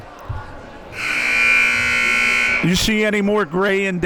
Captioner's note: buzzer blares